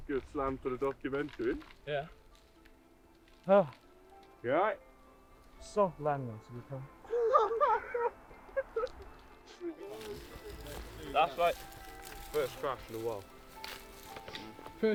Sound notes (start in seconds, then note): 9.9 footsteps on bracken